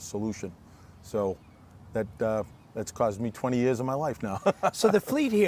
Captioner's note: laughing